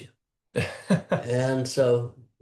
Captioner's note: laughs